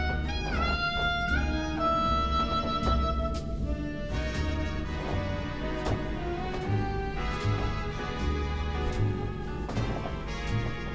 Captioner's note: the distant droning of the engines and the wood creaking continues